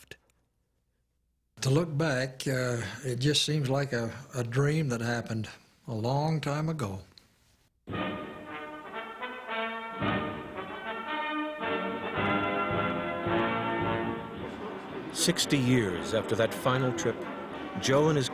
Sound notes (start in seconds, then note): 6.6 bright trumpet fanfare; 14.0 voiceover